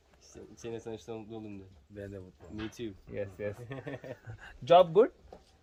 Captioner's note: speaking in Foreign language